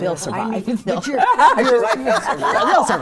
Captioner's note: all laughing